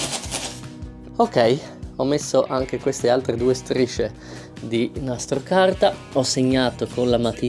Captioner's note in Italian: sbuffare